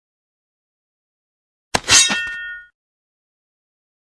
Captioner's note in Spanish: Sonido de espada